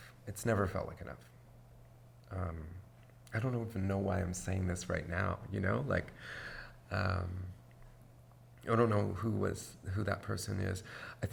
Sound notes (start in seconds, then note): none